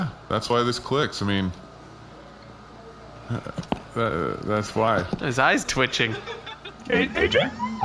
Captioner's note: stutters